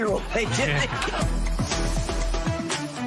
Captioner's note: laughter